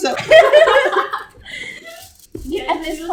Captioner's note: laugh